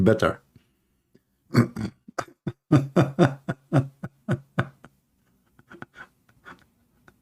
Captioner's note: Ketawa